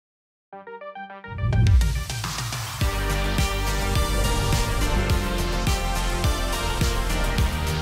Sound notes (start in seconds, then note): 0.6 energetic electronic music; 4.0 transition whooshing